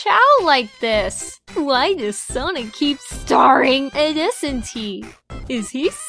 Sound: funny voice

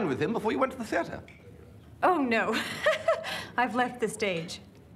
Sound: laughs

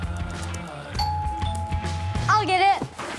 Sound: door bell dings

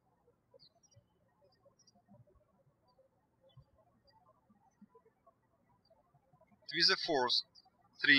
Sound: birds chirping

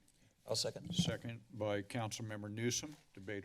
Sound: mic crackling

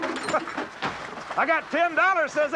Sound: man chuckling

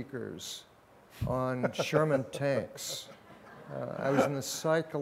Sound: laughs

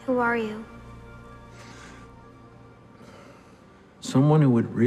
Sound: inhales sharply

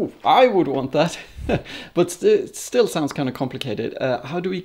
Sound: laughs

